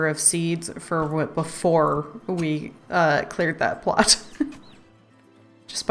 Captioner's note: laughs